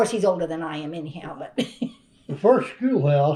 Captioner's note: laughs